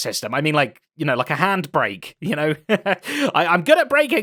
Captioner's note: laughs